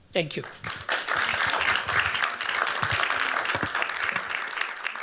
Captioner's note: applause